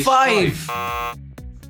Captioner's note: buzzer